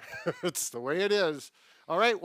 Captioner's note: laughing